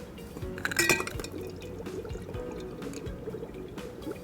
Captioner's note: bubbling